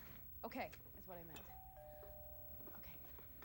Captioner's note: doorbell chimes